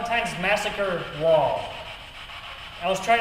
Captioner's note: static buzzing